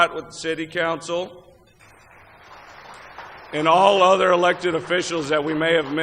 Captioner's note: applause